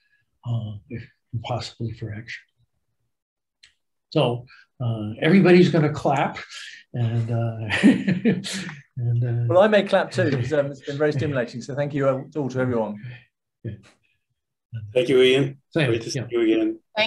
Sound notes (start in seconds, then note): 7.6 laughs